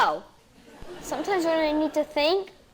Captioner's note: audience laughing